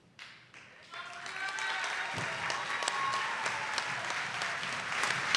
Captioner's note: attendees applauding